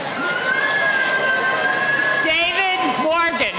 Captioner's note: cheering